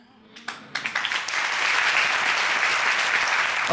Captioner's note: audience applauding